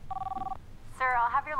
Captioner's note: intercom beeps